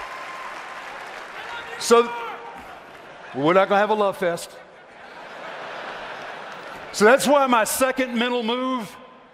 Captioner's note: applause